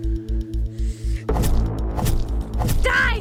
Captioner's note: stabbing squelch